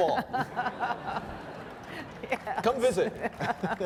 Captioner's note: laughing